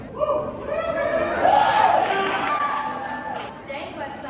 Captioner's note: obnoxious clapping and woohooing from college frat bros